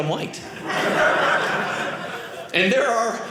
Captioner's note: audience laughing